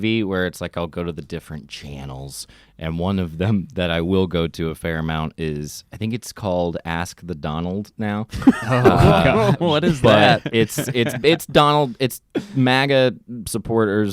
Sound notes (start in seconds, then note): 8.4 laughs